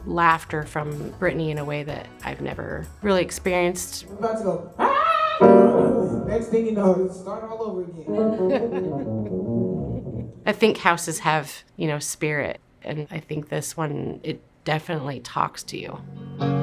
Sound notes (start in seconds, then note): 8.1 laughter